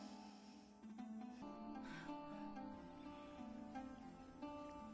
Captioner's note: breathes deeply